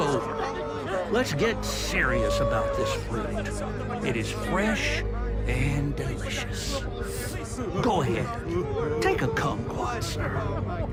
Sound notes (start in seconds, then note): 3.3 people begging